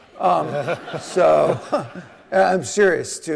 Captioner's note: audience laughing